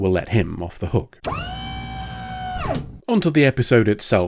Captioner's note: pneumatic whine